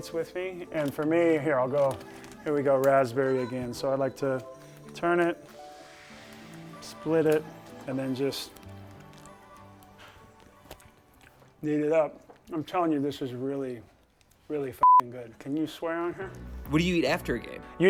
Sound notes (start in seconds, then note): 14.8 beep